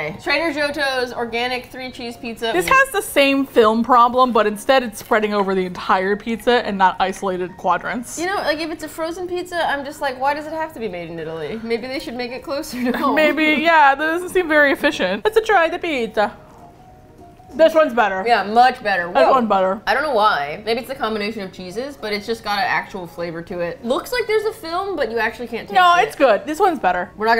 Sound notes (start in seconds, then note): 12.8 laughs; 15.3 exaggerated Italian accent